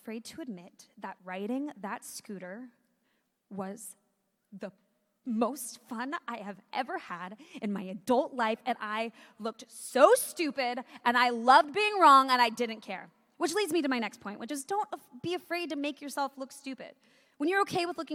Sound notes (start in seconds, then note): none